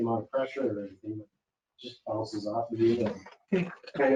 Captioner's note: speaking faintly